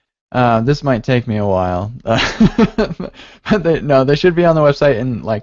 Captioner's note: laughs